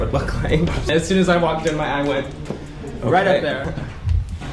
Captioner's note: points and snaps